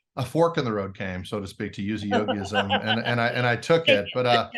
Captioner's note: laughs